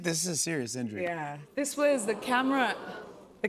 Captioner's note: audience "Oohs"